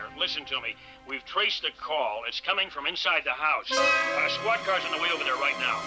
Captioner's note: horn Honking